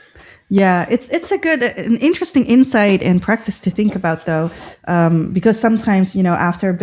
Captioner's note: uh